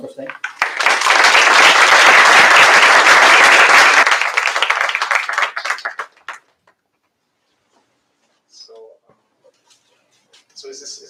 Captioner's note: audience applauds